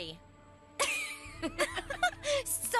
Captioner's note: Gwen and Courtney Giggles